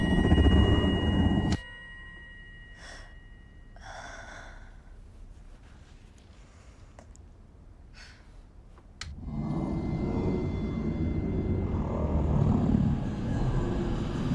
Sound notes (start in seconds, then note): 3.3 Heather sighs; 9.1 eerie instrumental music; 9.1 growling